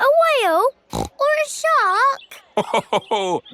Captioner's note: snorts; laughs